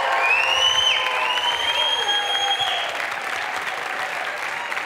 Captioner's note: audience cheering; audience member whistling